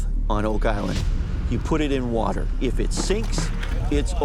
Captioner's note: none